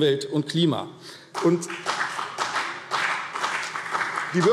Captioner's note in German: Beifall BÜNDNIS 90/DIE GRÜNEN